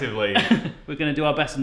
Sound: laughs

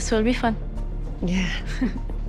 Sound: chuckles

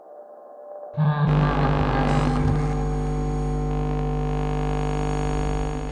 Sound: electronic hum and low ambience

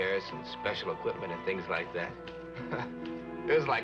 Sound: laughs

